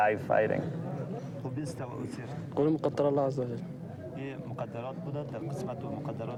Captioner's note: men speaking in foreign language